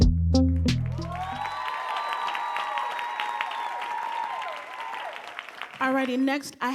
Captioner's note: audience cheering and applauding